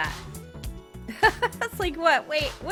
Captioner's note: laughing